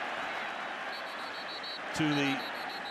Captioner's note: whistle